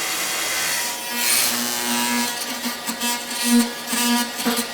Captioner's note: saw buzzing